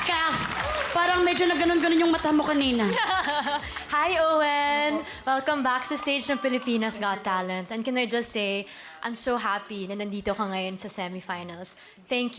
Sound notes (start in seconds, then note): 2.8 kathryn giggles